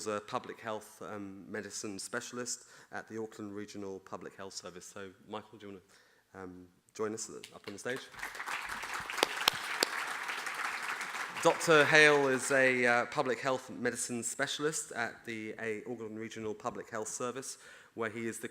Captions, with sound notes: Michael's a public health medicine specialist at the Auckland Regional Public Health Service, so Michael do you want to join us up on the stage? (audience applauding) Dr. Hale is a public health medicine specialist at the Auckland Regional Public Health Service